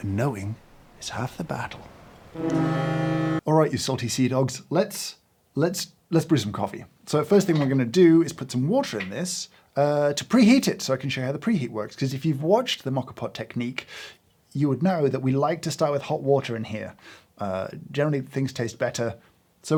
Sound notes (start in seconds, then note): 2.3 foghorn